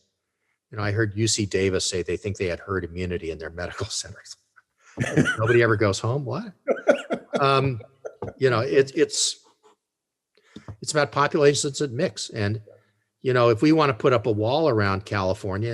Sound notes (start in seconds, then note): 6.6 laughs